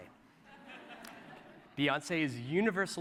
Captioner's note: laughter